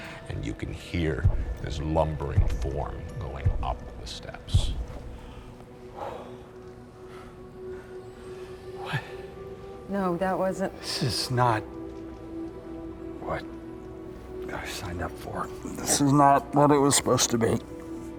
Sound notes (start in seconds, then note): 4.5 footsteps